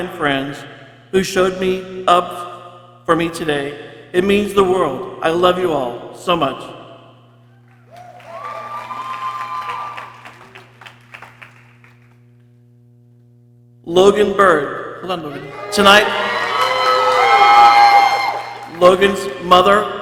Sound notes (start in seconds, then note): 7.8 people cheering; 15.3 people cheering